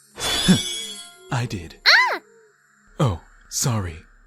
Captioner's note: startled yelp